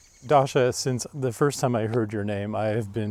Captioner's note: birds chirping